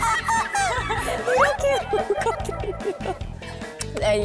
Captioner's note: sip